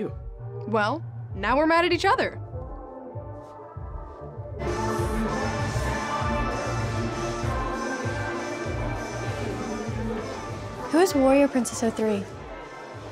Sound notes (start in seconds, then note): none